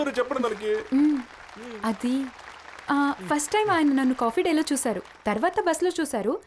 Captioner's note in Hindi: तालियाँ